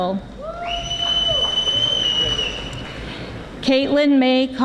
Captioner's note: audience whistling